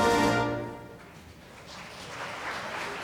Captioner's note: applause